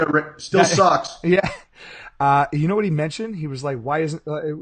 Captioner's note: laughing